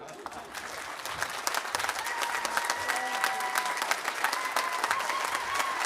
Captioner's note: audience applauding and cheering